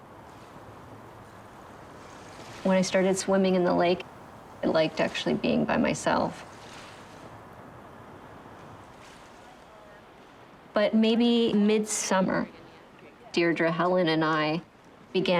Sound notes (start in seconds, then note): 0.6 wind blowing